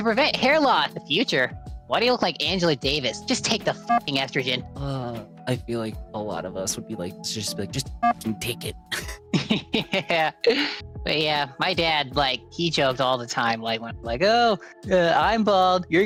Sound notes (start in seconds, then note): 9.3 laughs